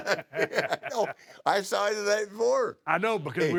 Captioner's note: laugh